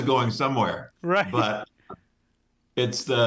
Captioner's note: laughing